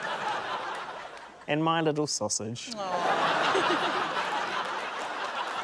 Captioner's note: laughter